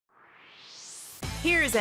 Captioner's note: swoosh